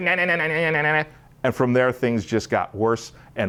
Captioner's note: none